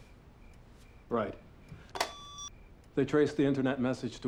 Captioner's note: line disconnects